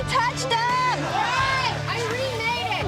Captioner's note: people cheer